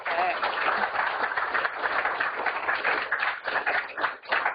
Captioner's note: applause